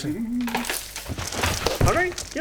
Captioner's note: rustling